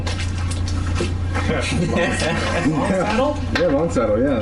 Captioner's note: laughter